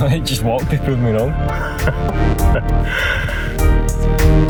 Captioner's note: laughter